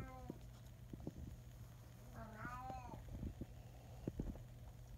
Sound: Stoner cat yowling in the background

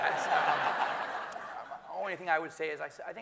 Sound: everyone laughing

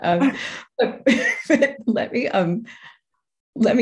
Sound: both laughing

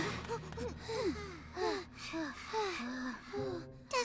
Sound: all breathing heavily

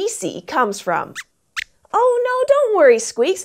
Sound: squeaks squeaks

